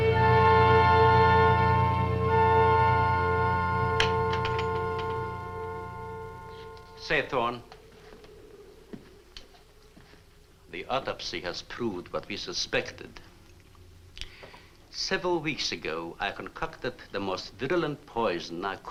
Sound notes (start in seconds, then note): 4.0 door opens